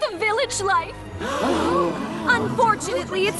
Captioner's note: gasps